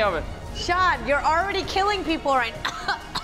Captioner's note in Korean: 콜록